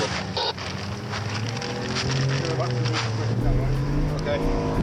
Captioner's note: boat engine revving; dramatic music